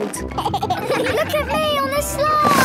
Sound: giggles

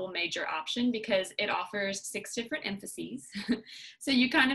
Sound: laughter

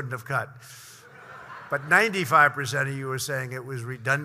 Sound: laughter

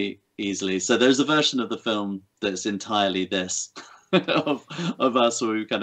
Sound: laughs

